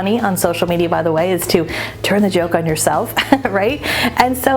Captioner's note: chuckles